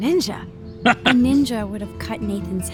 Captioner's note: laughs